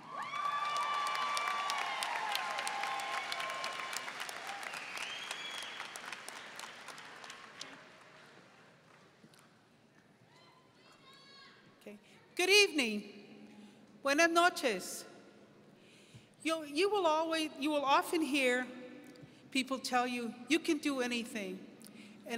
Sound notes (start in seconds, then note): 0.0 audience cheering; 14.1 speaking foreign language